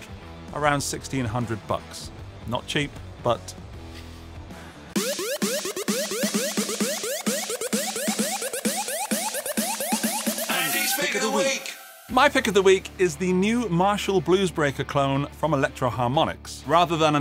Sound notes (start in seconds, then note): 5.0 graphics screeching